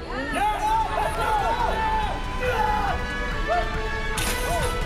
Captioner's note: crowd cheers